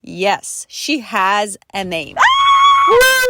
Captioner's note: screams